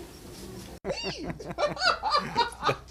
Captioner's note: laughter